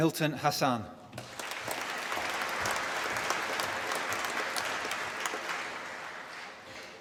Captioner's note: applause